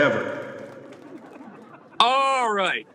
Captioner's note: audience clapping